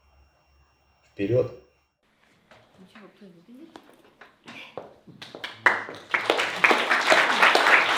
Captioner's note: applause